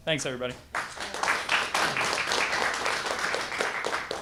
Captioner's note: applause